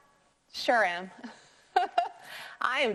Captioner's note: laughing